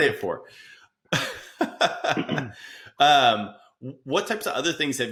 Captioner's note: laughing